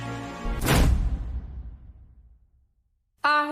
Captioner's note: door slamming